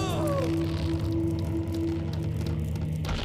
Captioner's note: screaming